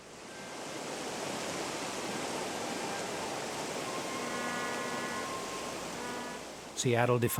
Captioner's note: water sounds